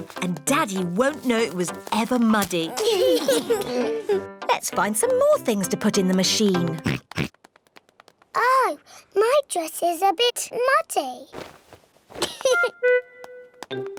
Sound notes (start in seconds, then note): 6.8 oinks; 12.2 giggles